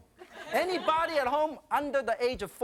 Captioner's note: audience laughing